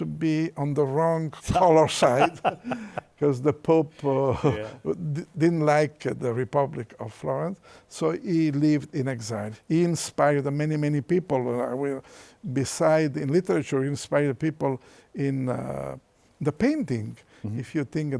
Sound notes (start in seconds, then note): 1.8 laughs; 1.9 chuckles